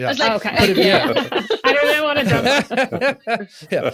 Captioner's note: all laugh